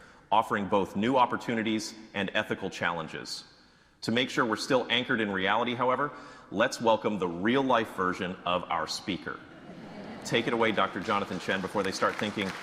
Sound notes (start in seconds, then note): 9.4 audience laughing